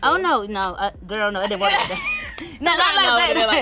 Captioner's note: laughing